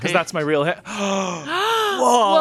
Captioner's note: gasping